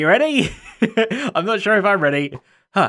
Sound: chuckles

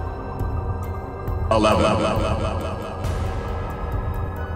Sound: echo

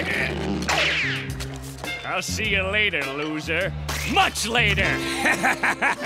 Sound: laughing

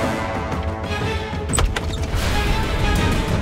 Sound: door opening

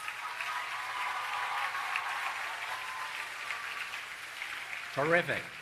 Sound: applause and Cheering

